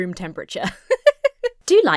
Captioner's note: laughs